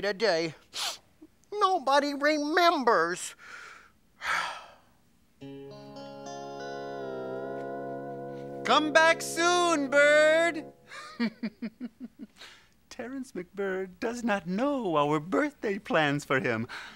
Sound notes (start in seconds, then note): 0.6 sniff; 4.2 sigh